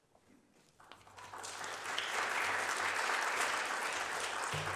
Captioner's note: applause